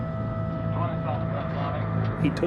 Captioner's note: talking in background